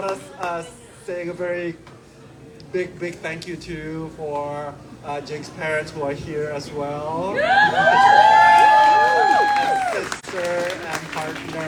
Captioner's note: cheers